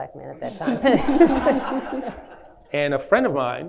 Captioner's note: laughing